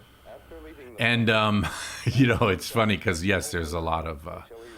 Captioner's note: laughs